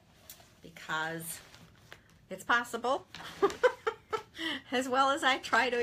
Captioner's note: chuckles